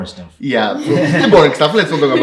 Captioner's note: laughing